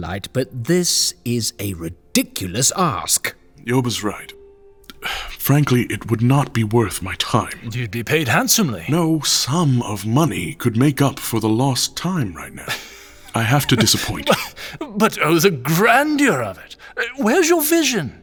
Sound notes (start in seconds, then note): 4.9 sighing; 12.5 laughs